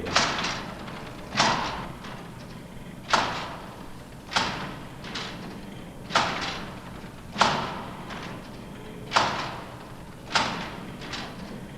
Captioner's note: machine Sound